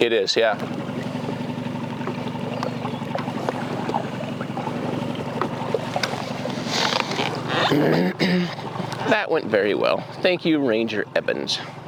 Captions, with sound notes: - It is, yeah. (water splashing) (motor purring) That went very well. Thank you, Ranger Evans.